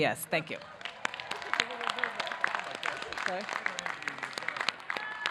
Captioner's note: audience clapping